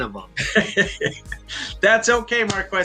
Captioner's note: laughs